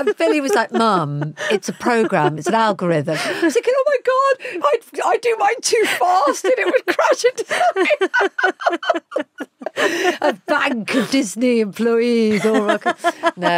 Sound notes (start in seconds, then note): 7.3 both laughing; 12.2 Giovanna laughs